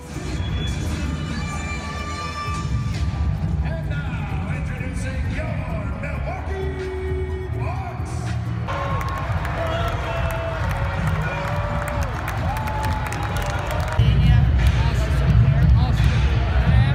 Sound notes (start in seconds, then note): 0.1 upbeat music; 8.7 applause; 13.6 upbeat music